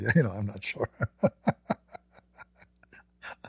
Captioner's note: Ketawa